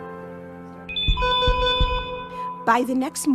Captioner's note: alarm sounds